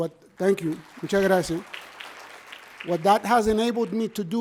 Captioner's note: audience applauds; speaking in foreign language